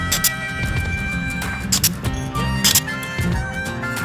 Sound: stapler clicking

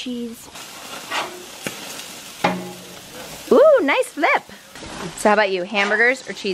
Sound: grill sizzles

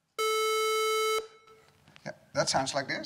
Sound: beep

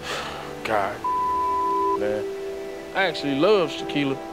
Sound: beep

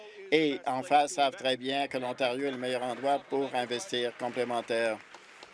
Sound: applause

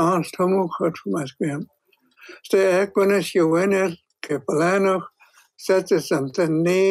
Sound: speaking in hən̓q̓əmin̓əm̓

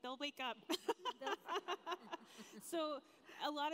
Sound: laughs

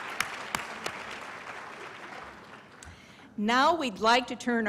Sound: applause

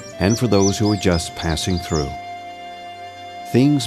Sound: birds chirping

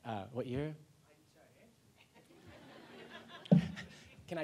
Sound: laughter

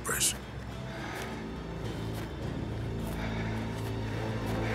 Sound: footsteps

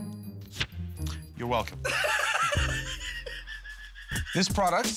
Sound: laughing

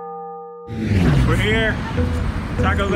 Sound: none

